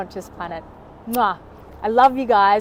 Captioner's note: mwah